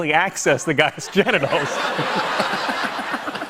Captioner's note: laughter